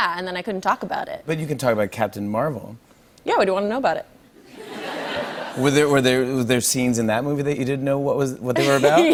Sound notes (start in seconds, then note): 4.4 laughter; 8.1 laughing; 8.8 normal voice